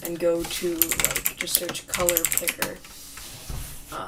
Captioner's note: comically loud keyboard clacking